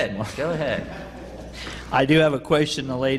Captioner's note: laughter